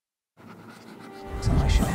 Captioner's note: pen scratching